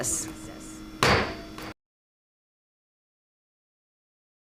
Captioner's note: gavel bangs